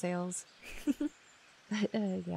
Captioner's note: laughs